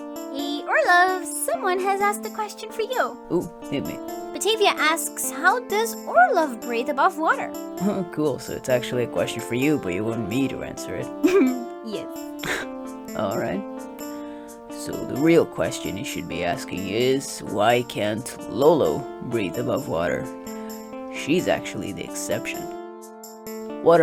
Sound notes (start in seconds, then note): 11.2 chuckle; 14.1 exhale